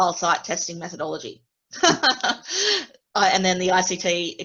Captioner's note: laughter